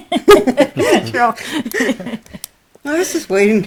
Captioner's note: group laughter